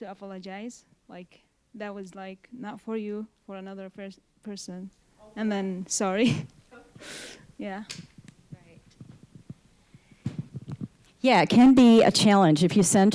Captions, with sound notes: to apologize, like, that was like not for you, for another person, and then, "sorry." (chuckling) >> Yeah, it can be a challenge if you send